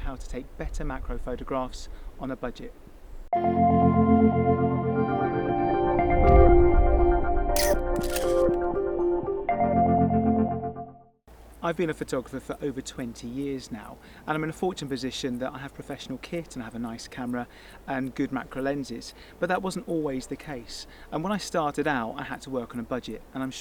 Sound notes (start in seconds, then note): 3.3 gentle music; 7.5 camera shutter